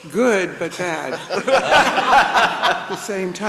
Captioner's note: everybody laughs